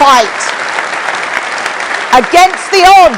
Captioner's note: applause